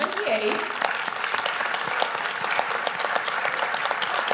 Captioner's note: audience applauding